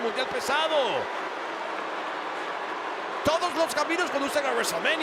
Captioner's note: applause